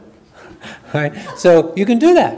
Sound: audience chuckles

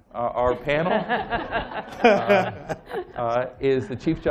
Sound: laughter

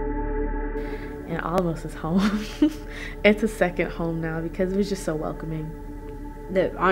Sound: laugh

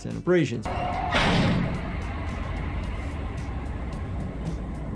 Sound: dumpster lid thumps

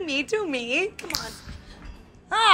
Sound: snap

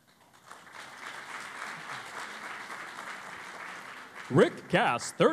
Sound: applause

